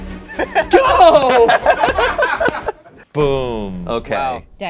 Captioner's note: laughs